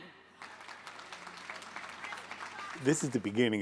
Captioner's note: applause